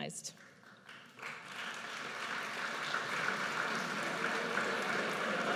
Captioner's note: audience applauds